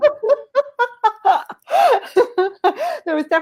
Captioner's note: laughing